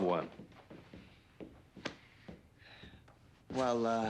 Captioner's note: footstep